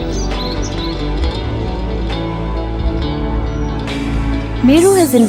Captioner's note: birds chirping; soothing music